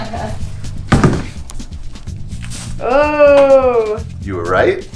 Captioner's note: laughs